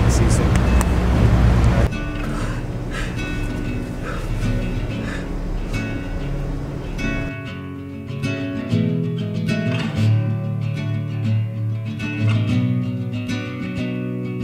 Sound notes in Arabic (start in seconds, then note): 2.0 بكاء ناعم; 8.1 موسيقى هادئة